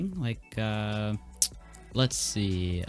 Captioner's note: lip smack